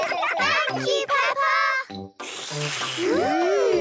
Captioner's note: all slurping